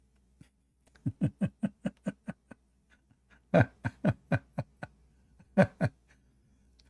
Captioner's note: Ketawa